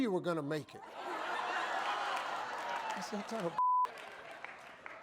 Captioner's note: audience laughing